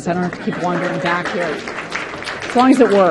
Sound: participants clapping

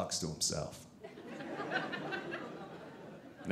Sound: audience laughing

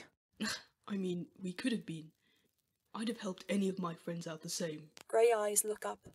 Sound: James scoffs

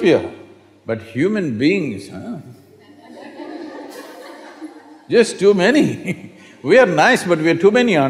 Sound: laughter

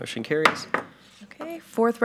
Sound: gavel knocks

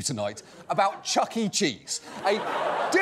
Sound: audience laughs

